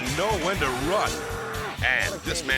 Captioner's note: poker player grunts; bull bellows